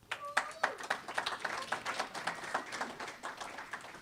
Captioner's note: applause